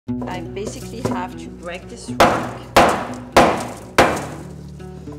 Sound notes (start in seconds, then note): 2.1 bang bang bang bang